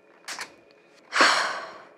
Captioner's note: sigh